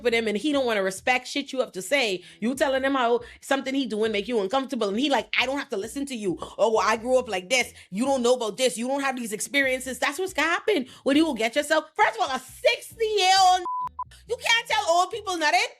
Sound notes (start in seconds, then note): 13.6 beep